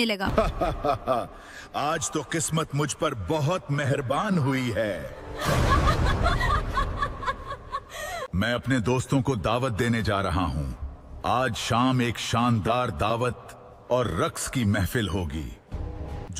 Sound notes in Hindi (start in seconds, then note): 5.3 हंसी